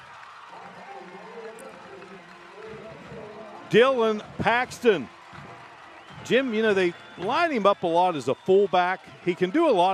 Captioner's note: applause